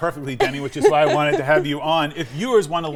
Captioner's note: laughing